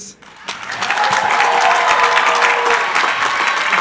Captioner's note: crowd cheering